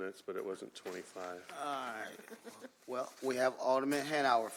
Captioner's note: laughter